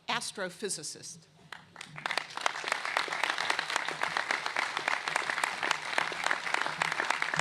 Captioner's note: applause